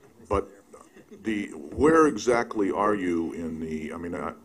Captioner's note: laughter